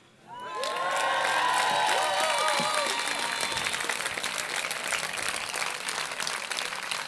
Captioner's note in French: Applaudissements